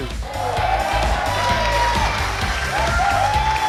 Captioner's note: clapping